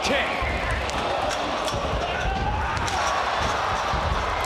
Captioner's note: crowd cheers